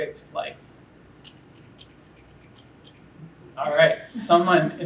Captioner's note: one person snaps